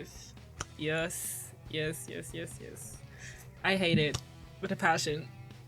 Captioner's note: hand clap